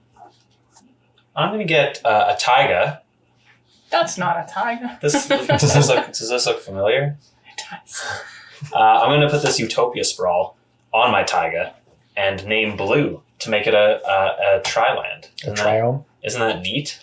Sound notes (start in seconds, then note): 4.9 laughs